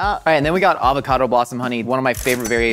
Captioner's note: cash register dings